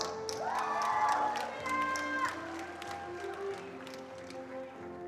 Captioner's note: attendees applauding